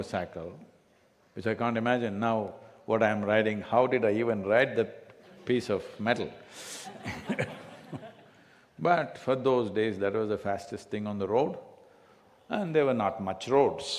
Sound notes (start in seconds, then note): 6.6 few laugh